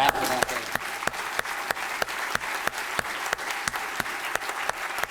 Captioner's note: applause